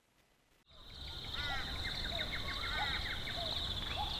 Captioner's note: birds whistling